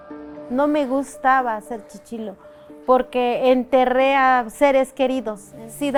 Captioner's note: speaking foreign language